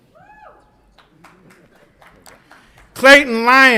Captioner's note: audience applauds and cheers